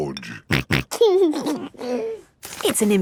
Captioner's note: snorting and giggling